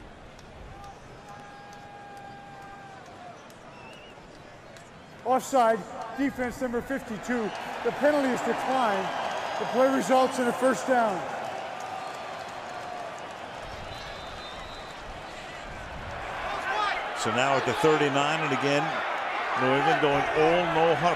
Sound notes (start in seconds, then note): 12.0 cheering